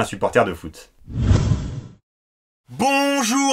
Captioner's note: whoosh